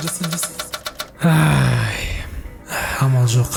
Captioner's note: A nervous sigh